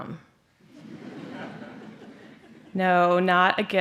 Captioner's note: laughter